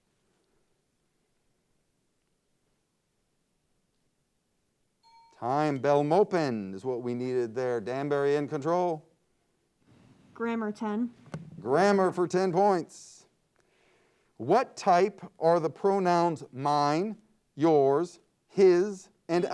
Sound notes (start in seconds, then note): 5.0 timer bell dings